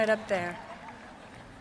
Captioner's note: applause